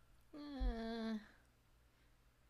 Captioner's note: disbelieve noise